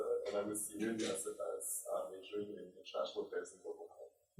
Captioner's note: faintly speaking